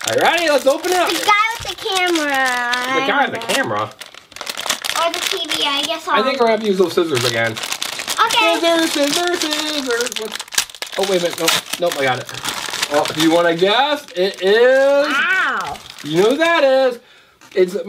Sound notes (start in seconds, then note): 10.2 bag crinkles